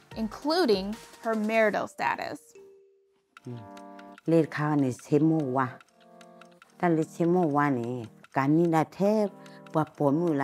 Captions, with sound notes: including her marital status. (speaking in foreign language)